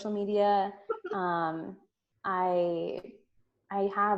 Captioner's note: giggles